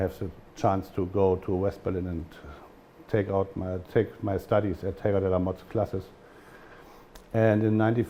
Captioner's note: german